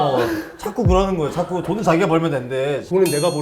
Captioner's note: confident